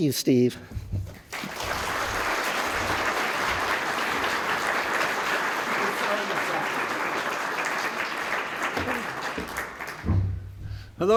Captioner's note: applause